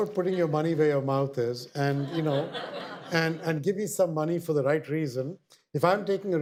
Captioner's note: audience laughter